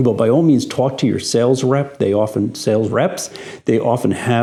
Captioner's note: none